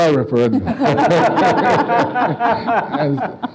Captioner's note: laughing